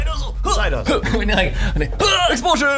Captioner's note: laughing